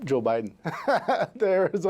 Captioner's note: laughing